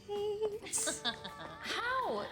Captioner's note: Candace laughs